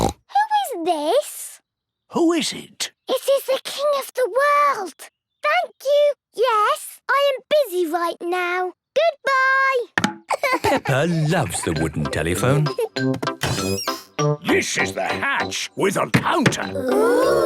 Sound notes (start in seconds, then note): 0.0 snorts; 10.3 laughing